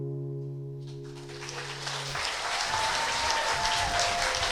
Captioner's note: applause